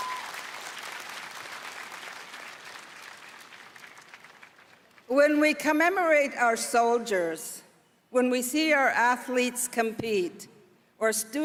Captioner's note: applause